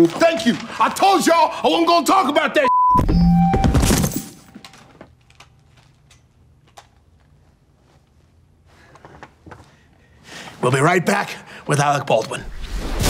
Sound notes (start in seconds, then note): 2.6 beep; 3.0 mic thuds